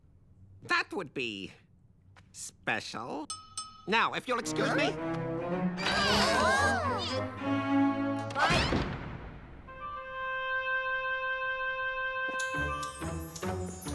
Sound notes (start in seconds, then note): 8.3 slam!